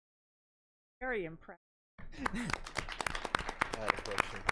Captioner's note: everyone clapping